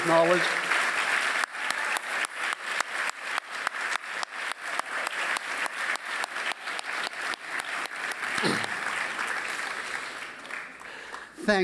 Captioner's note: applause